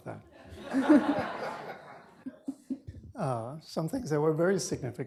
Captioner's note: laughter